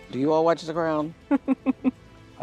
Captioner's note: Meghan laughing